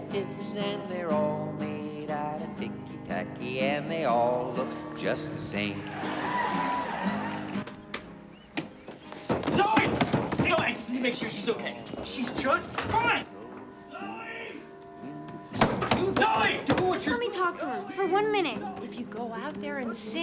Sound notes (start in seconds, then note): 5.6 crowd cheering; 9.1 pounding; 15.5 pounding